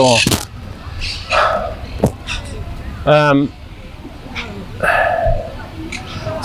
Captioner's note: sighing